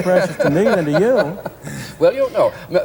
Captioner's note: laughter